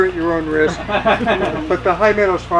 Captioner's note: laughs